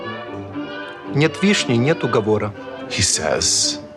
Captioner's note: Alexei speaks Russian